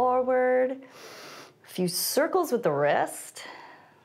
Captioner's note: inhales